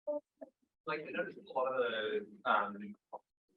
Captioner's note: student quietly talking